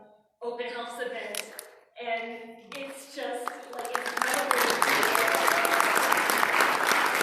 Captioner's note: applause